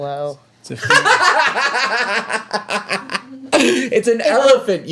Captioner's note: laughs loudly